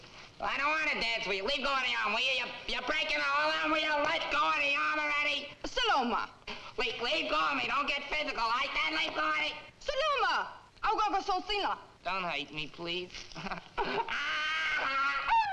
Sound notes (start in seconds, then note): 11.0 Nona speaking in foreign language; 13.2 chuckles nervously; 14.0 Sammy screaming